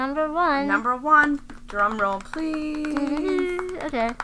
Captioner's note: beating on thighs